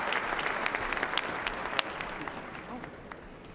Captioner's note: applause